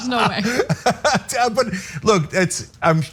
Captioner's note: laugh